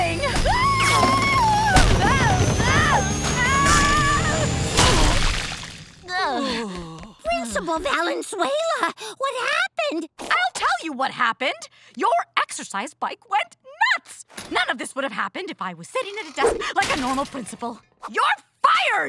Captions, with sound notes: [screaming] [groaning] Principal Valenzuela, what happened? I'll tell you what happened. Your exercise bike went nuts. None of this would've happened if I were sitting at a desk like a normal principal. You're fired!